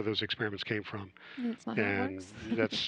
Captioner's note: chuckles